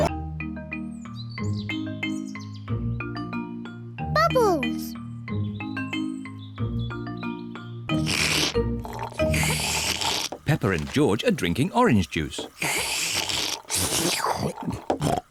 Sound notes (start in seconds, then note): 8.8 both slurping; 12.3 both slurping